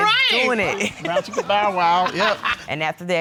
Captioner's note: laughs